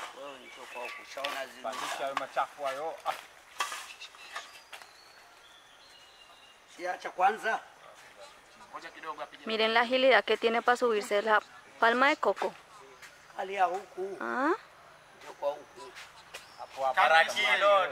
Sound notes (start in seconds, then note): 6.7 Swahili spoken